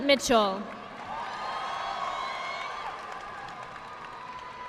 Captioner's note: audience applauding